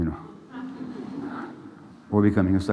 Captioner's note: laughter